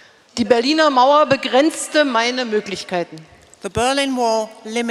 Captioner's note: speaking in German